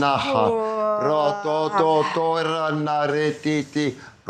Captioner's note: non-english speech